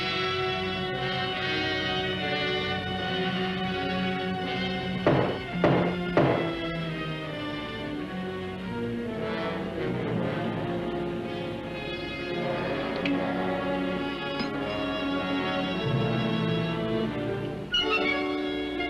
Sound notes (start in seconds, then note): 5.0 banging